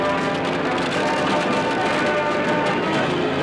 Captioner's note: yelling